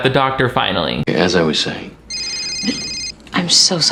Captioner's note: cell phone ringing